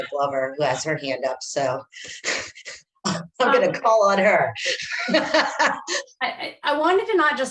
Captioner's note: laughs